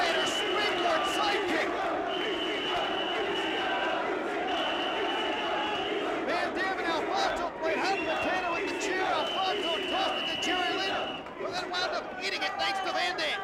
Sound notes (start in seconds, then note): 0.0 applause